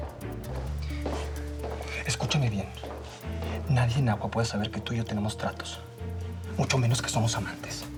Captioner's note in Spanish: Pasos cercanos